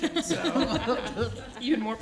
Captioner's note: laughter